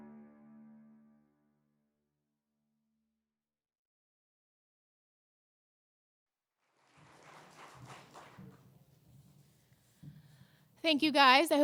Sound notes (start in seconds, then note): 6.6 applause